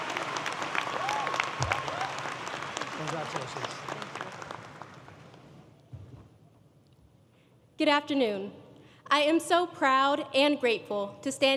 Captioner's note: applause